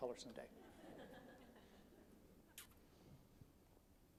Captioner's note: audience laughs